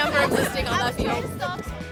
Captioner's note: laughing